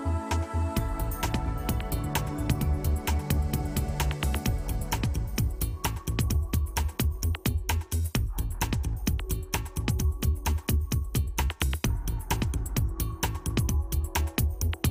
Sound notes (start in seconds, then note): none